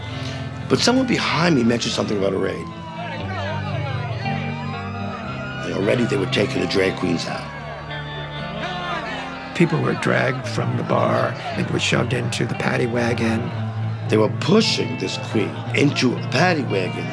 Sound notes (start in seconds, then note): 2.8 siren wailing; 7.6 shouting continues